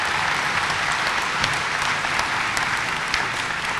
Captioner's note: applause